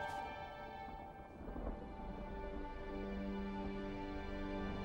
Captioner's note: thunder rumbling